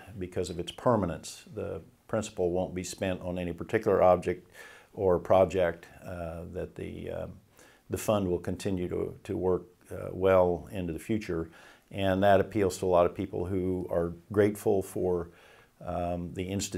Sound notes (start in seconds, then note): none